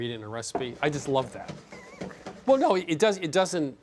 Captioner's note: chuckles